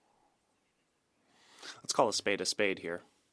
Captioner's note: speaking French